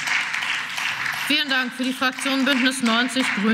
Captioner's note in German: Beifall